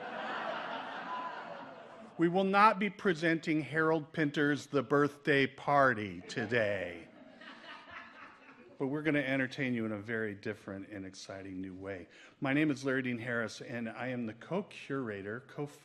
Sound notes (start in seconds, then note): 0.0 audience laughs; 7.6 man in audience laughs